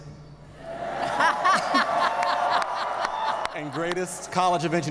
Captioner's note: audience laughing